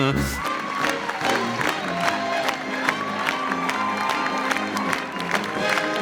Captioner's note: audience cheering and clapping